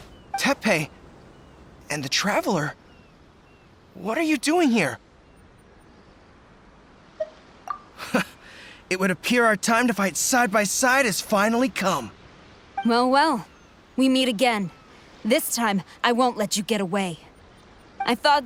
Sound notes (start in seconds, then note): 8.0 chuckle